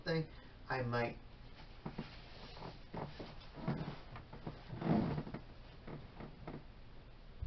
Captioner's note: scrunching of mattress as body moves